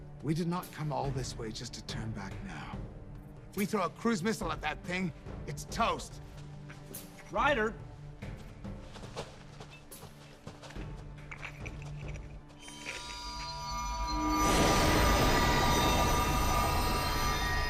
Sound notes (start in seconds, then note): 12.5 stone chiming; 14.6 doorway whooshing